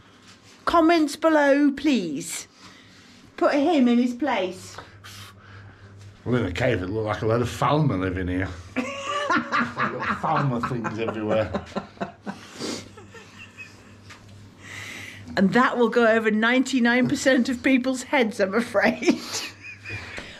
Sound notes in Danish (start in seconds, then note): 13.1 snigger